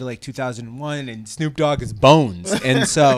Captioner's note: laughs